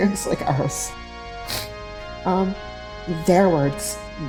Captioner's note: sniffle